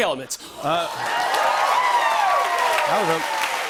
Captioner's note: cheers and applause